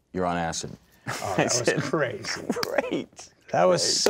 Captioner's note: laughing